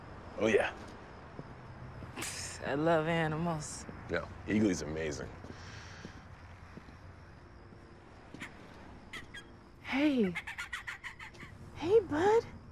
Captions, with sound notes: Oh, yeah. Pssh. I love animals. No, Eagly's amazing. (INHALES DEEPLY) (EAGLY CHIRPS PLAYFULLY) Hey! Hey, bud!